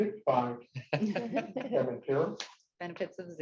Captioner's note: participants laugh